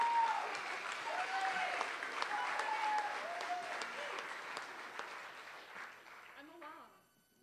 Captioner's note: applause